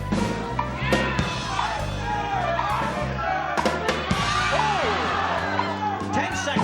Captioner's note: cheering